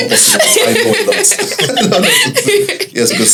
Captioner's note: laughs